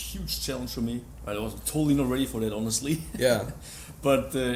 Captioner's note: laughs